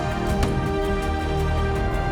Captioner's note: poof